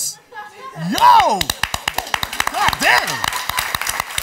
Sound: applause

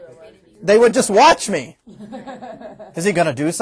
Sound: students laughing

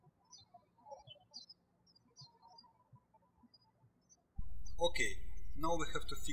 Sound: birds chirping

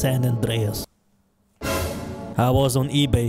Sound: dramatic sound fx

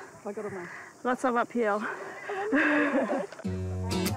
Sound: chuckles; peaceful acoustic guitar music

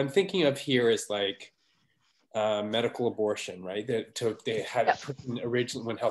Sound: audio cutting out

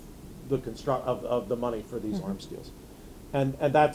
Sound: none

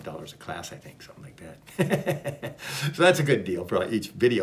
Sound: laughs

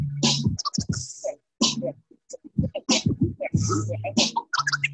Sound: record scraping

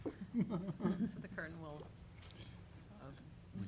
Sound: chuckling

